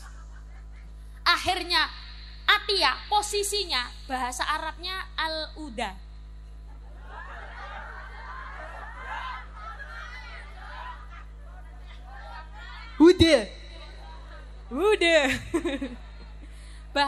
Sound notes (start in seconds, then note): 6.7 laughs